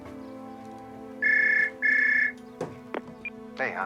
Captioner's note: phone rings